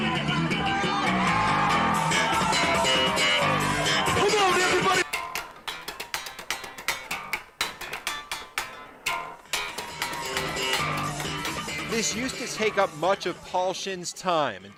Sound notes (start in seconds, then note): 5.2 audience cheering; 5.2 energetic rock music; 8.6 energetic rock music continues; 9.1 guitar twanging